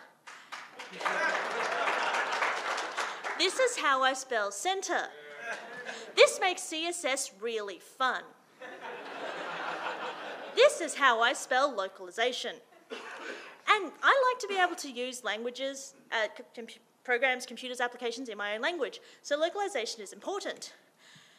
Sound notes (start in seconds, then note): 0.2 audience applauding; 8.6 audience laughing